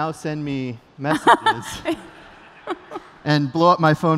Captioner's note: laughter